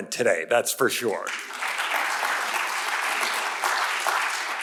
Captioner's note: audience applauds